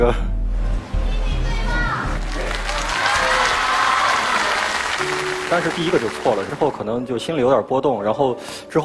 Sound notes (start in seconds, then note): 1.7 audience voice